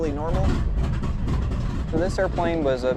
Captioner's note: plane engine chugging